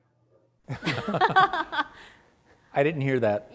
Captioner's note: panelists laughing